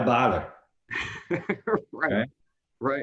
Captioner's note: laughs